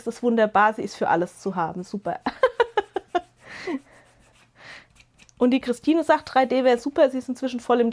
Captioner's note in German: gelächter